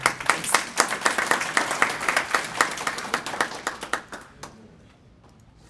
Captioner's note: applause